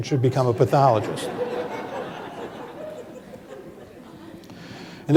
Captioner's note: laughter